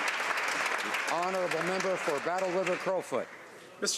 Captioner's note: some Applause